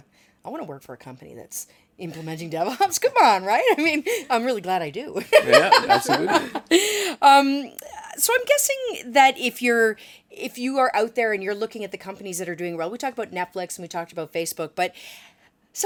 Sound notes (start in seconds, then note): 5.2 laughter